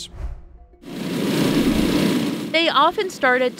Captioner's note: hot air balloon whirring